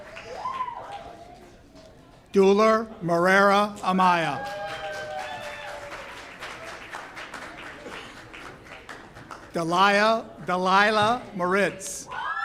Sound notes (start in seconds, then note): 4.1 audience cheers; 12.0 audience cheers